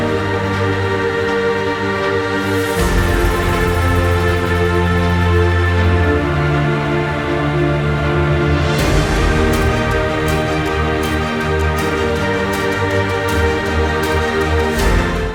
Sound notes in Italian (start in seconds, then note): 9.5 Applauso